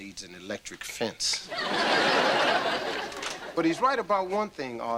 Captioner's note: audience laughter